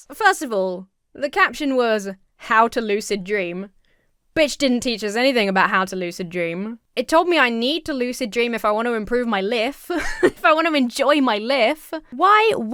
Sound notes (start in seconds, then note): 9.9 laughs